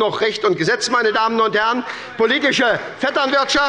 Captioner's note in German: Beifall bei der SPD